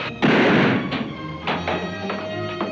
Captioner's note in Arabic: أصوات البنادق; موسيقى مثيرة